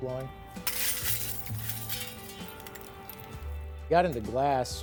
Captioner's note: glass rattling